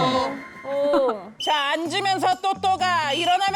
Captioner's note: sound effect of the evil spirit fully taking hold